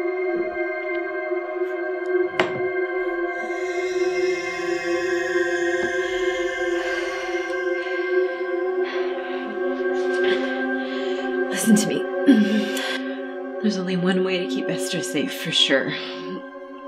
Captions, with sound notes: [ Suspenseful music ] [ Heavy breathing ] Listen to me. There's only one way to keep Esther safe for sure.